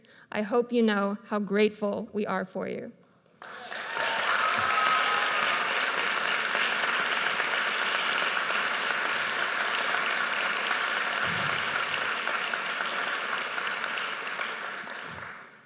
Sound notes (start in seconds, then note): 4.1 audience cheers and applauds